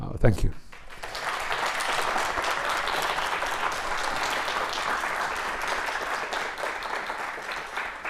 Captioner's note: audience clapping